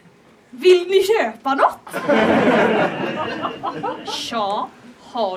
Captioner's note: laughter